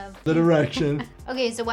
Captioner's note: chuckles